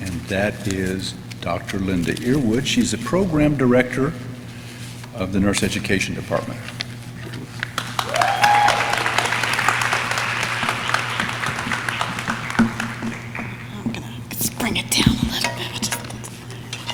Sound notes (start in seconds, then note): 7.5 audience clapping; 7.7 audience cheering; 16.7 audience laughs